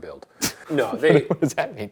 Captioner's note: Ryan laughs